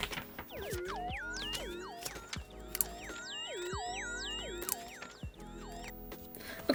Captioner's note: hypnotizing sound